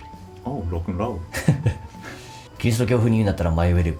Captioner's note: laughs